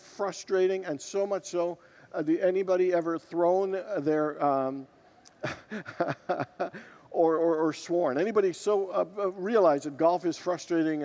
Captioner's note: laughs with congregants